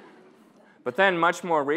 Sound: audience laughing

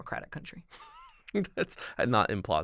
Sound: chuckle

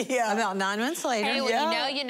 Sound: laughing

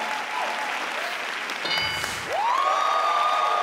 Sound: crowd cheering; tabs clicking; crowd cheering

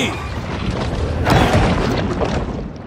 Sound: exploding; water swooshing

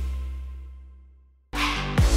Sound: silence

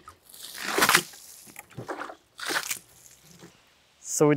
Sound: water splashes

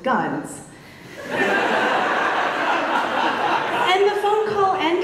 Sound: audience laughs

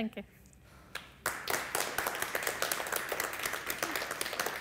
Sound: audience clapping

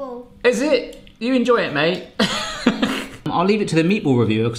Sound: laughing

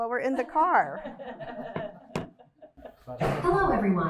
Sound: laughter

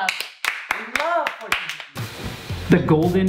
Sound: clapping

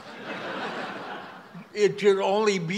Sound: audience laughs

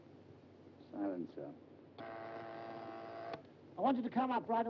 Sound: machine buzzes

